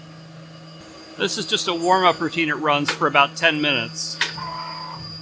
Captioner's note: machinery